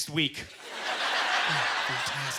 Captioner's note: audience laughter